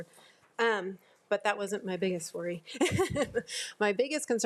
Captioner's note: laughs